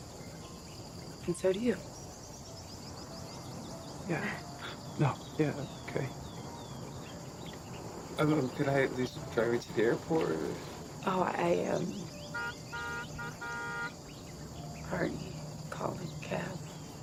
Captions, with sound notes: AnAnd so do you. - Yeah, no, yeah. - [chuckles] Okay. UmUm, could I at least drive you to the airport? Oh, I, um... [car horn honks] ...already called a cab.